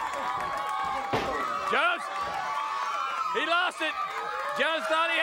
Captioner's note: applause